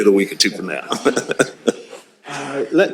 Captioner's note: laughs